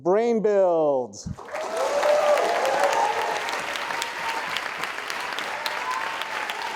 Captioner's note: audience cheering and applauding